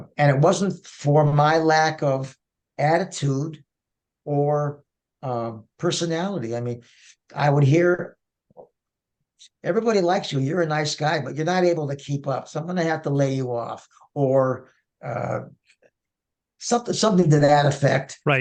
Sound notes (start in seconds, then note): none